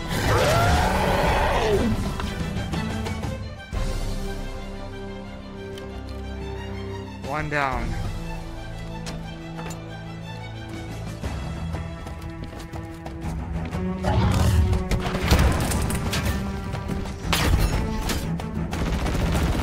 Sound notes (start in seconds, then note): 0.0 hunter roars; 15.1 explosion